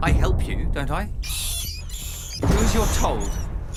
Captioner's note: squeaking